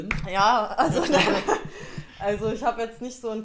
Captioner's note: laughter